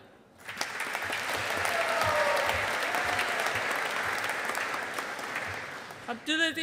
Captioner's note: audience applauding